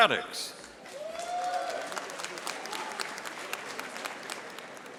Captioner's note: audience applauding